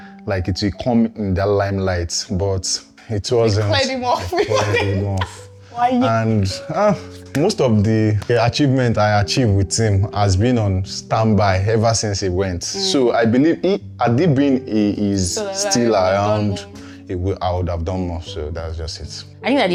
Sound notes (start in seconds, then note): 4.1 laughs